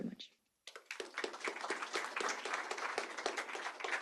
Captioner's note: applause